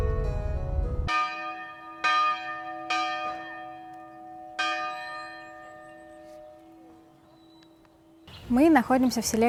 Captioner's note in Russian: колокольный звон